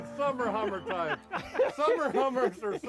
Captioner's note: laughing